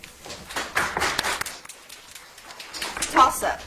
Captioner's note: audience applauds